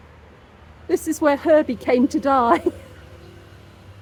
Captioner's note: laughing